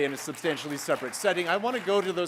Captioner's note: applause